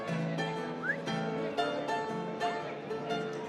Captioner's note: whistles